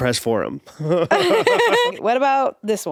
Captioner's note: both laughing